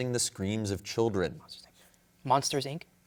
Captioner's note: whispers